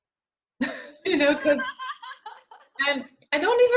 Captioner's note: laughter